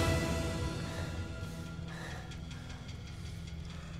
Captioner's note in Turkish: Nefes sesi